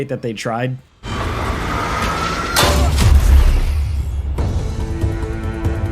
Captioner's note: monster screeching; dramatic music